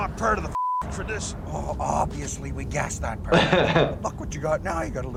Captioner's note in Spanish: se ríe